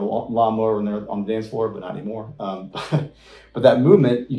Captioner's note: laughs